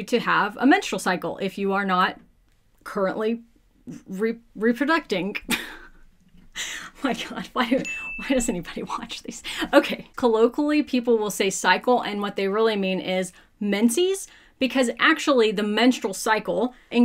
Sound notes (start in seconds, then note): 5.4 laughing; 7.8 bell ringing